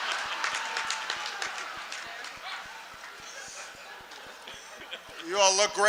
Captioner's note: laughter, applause